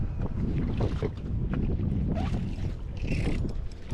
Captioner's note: wind blows